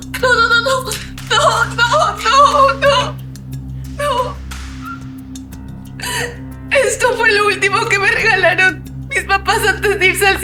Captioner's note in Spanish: risas